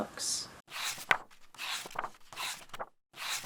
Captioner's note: pages turning